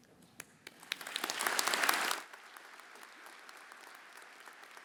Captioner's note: everyone applauding